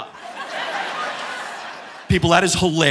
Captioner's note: audience laughing